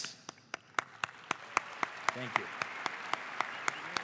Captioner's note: audience applauds